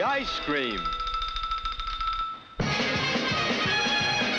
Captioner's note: bells chiming; rapid upbeat music